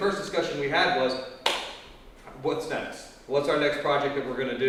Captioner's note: claps hands